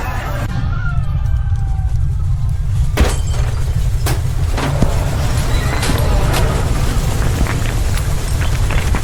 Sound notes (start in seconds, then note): 0.5 earth rumbling; 1.0 objects thudding